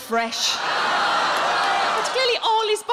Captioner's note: audience groan